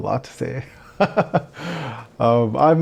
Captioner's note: laughs